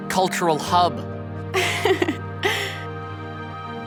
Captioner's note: giggles